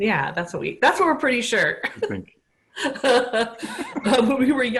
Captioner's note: laughter